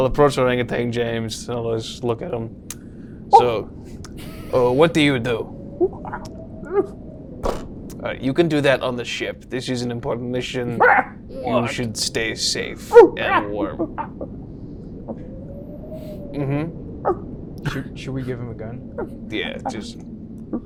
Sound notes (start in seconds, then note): 3.3 monkey noises; 12.8 monkey noises; 18.9 more monkey noises